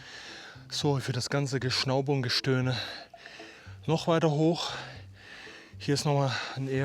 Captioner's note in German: japst